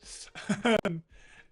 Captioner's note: laughs